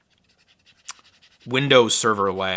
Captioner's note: rubbing trackpad